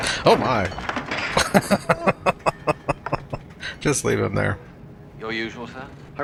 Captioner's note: laughing